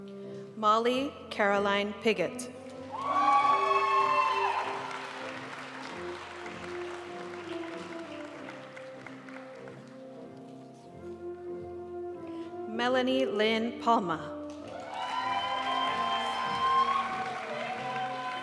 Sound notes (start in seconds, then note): 2.9 audience cheering and applauding; 6.3 graduation music; 14.6 audience cheering and applauding